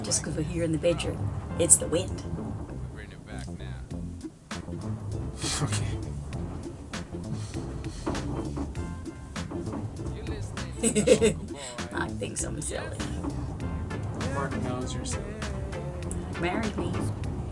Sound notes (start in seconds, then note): 4.1 upbeat music; 5.7 laughs